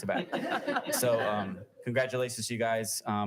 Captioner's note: audience laughing